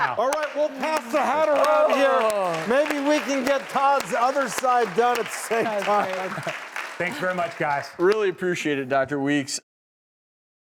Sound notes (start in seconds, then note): 5.5 laughs